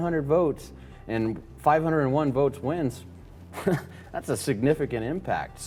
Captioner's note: chuckles